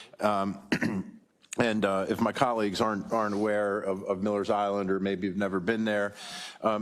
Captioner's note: cough